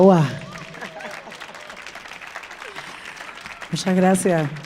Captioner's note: audience applauding; speaking in Spanish